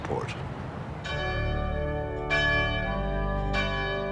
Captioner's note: bells ringing